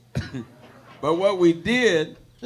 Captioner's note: audience laughing